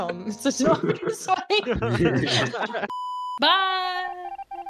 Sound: all laughing

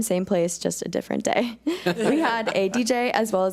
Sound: board laughs

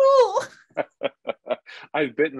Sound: laughing

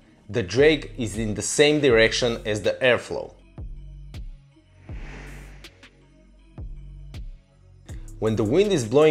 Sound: wind; air flow

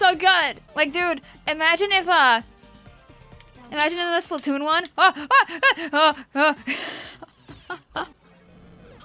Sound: laughs

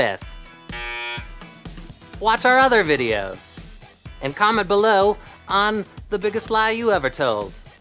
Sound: buzzing

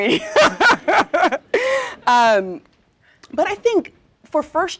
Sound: laugh

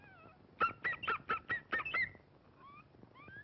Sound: bark, Bark

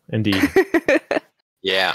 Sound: laughter

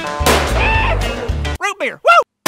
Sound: gun fires; yells

